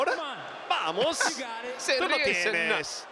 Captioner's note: laugh